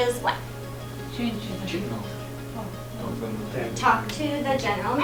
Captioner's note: students speaking